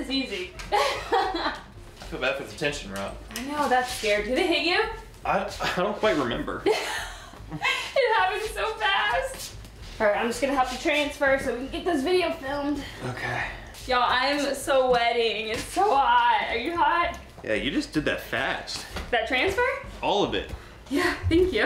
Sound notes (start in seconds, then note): 6.7 laughing